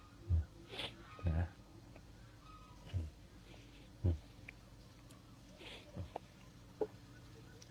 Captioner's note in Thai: เสียงสูดหายใจ